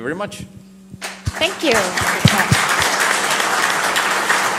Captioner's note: applause - Thank you